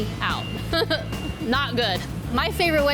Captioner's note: laughs